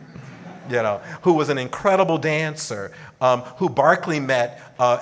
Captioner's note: audience laughing